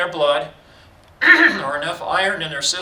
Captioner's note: clears throat